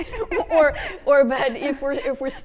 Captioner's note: both laughing